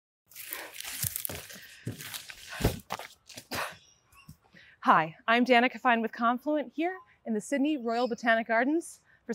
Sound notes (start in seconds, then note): 0.3 leaves crackling